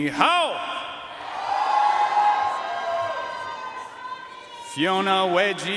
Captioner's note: audience cheering and applauding